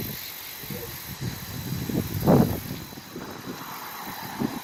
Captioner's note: wind blowing; traffic humming